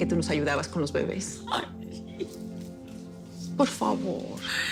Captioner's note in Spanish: Sollozos